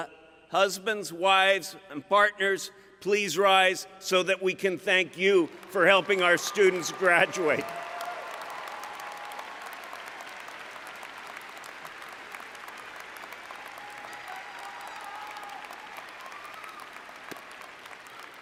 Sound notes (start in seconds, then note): 8.0 applause